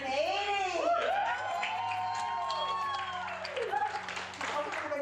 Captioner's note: group cheering